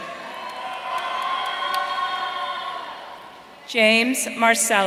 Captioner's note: audience cheering